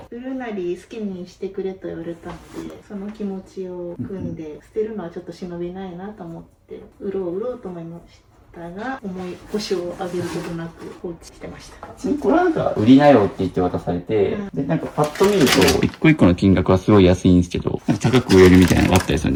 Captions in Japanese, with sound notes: 売るなり好きにしてくれと言われたのでその気持ちを組んで捨てるのはちょっと忍びないなと思って売ろうと思いましたが思い星をあげることなく放置してました。 [咳払い] 普通にこれはなんか売りなよって言って渡されてでなんかパッと見ると 1個1 個の金額はすごい安いんですけどなんか高く売えるみたいなのがあったりするんですかね。